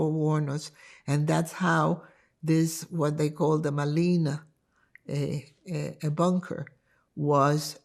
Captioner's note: hebrew